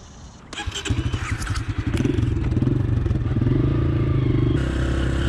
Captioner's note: bike engines roaring